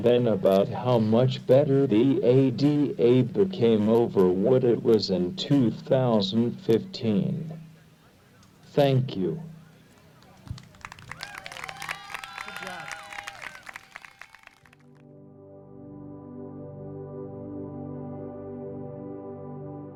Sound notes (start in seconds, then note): 10.2 audience applauds; 14.9 thoughtful music